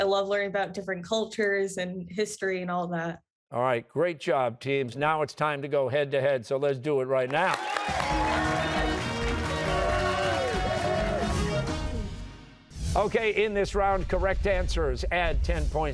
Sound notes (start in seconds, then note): 7.3 cheers and applause